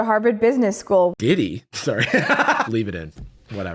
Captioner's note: laughs